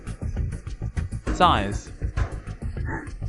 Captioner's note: sighs